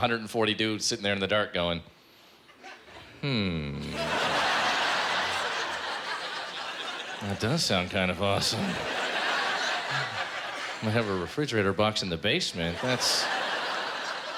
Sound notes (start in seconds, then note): 3.8 laughter